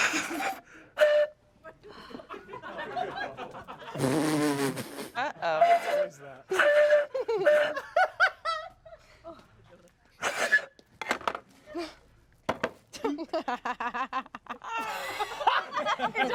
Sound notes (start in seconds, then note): 0.9 blows on pan flute; 1.7 everyone laughs; 6.4 blows on pan flute; 6.5 everyone laughs; 12.9 laughs